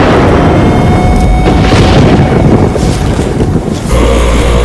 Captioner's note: thunder rumbling